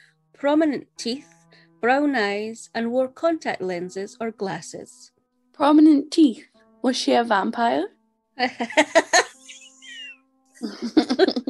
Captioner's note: laughs